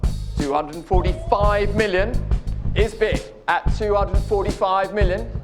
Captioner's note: crowd Gasps